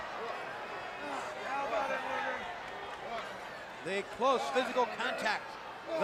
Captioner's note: crowd chatter